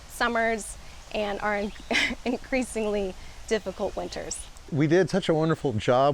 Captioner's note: laughing